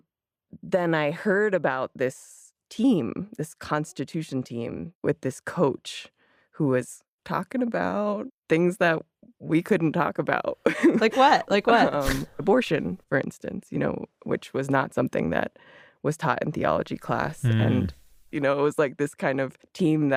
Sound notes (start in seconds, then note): 10.7 laughs